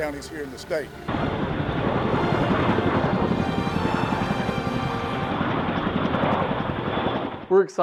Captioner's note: helicopter whirring